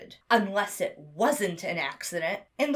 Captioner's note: none